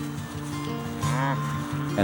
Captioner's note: cow mooing